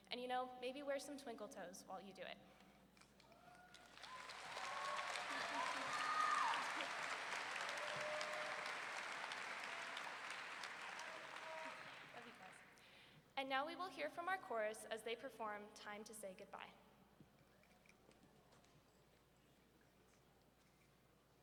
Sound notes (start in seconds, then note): 3.4 audience cheering and clapping; 9.7 audience member shouting encouragingly